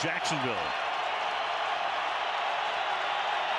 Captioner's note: crowd cheering